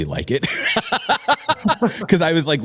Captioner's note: laughter